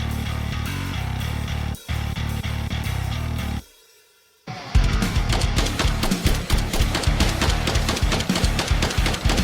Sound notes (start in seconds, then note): 5.0 gun blasting